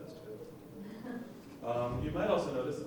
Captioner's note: laughing